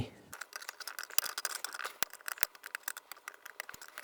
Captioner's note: sounds of paper crinkling